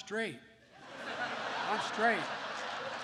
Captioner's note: laughter